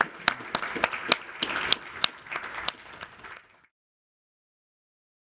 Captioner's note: audience applauds